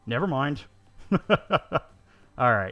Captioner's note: laughing